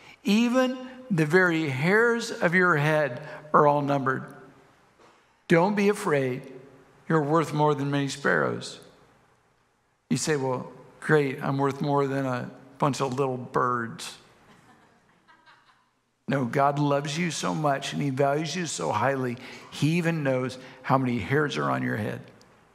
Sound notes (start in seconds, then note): 14.5 congregation members laugh